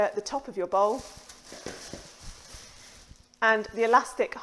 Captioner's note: plastic crinkles